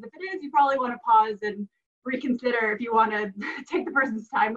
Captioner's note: laughs